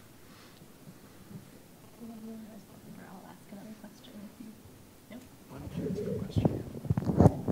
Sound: background Conversation

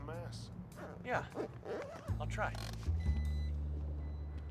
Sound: zipper zipping; car beeping

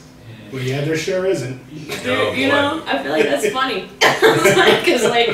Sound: laughs

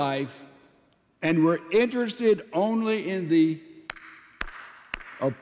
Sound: applauds

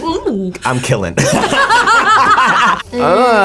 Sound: both laugh

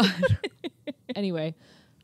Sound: chuckling

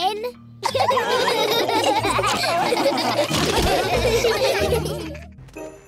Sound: laughter

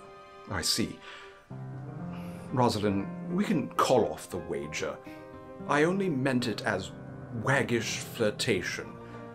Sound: sighing

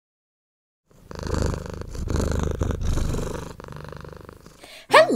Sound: cat purring

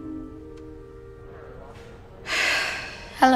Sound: sigh

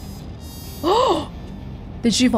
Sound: gasps

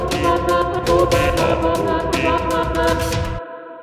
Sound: waa ooo eee

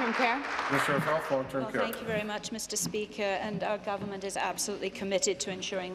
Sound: applause

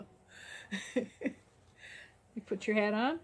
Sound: chuckle

